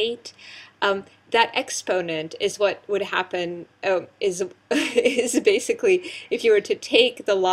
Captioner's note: laugh